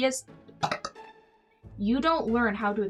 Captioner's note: burp